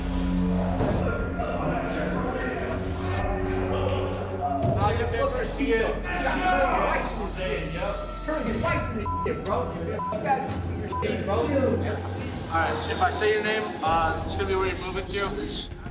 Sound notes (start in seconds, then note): 1.3 inmates chattering; 10.0 inmates shouting and swearing